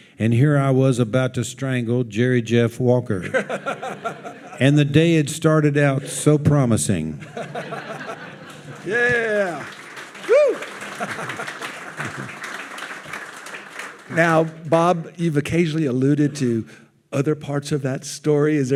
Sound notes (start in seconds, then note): 7.2 audience laughing; 10.8 audience applauding